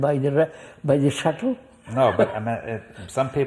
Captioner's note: laughs